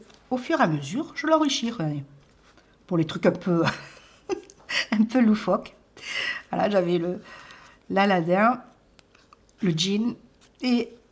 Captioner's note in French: rires